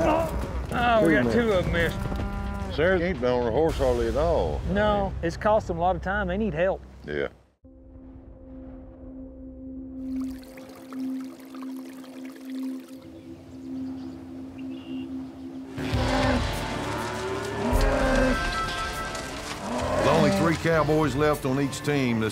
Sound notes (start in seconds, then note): 15.8 cows moo